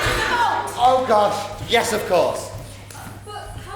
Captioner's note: audience laughs